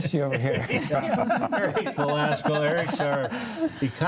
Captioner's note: panelists laugh